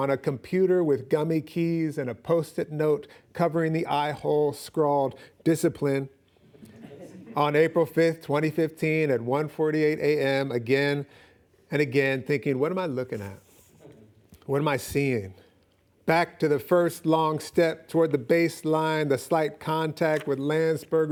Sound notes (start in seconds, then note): 6.6 laughing